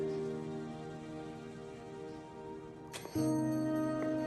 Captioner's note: doorbell l ringing